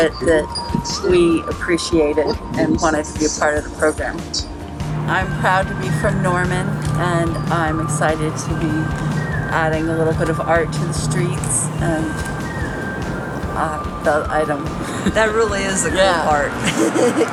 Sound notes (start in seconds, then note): 14.4 laughs